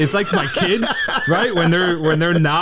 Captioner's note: laughs